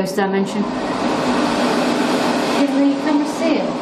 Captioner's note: hand dryer roaring